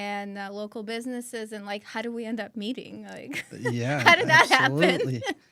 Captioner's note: laughs